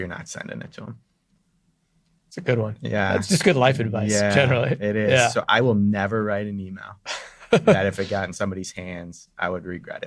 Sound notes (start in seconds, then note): 7.4 laughs